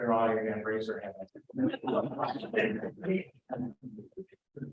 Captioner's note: laughter